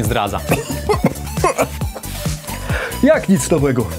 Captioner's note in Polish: kaszel